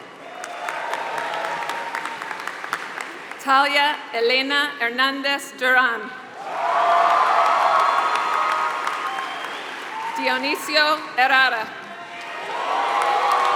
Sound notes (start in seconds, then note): 0.0 applause; 6.5 applause; 12.2 applause